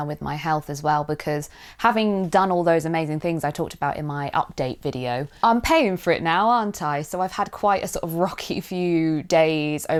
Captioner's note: none